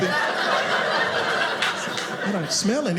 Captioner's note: audience laughing